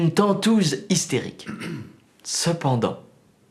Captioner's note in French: Toux